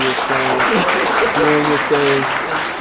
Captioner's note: audience applauding